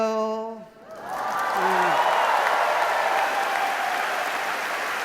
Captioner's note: audience applauding